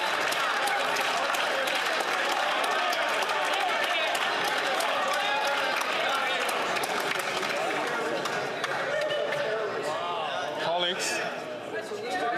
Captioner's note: some Applause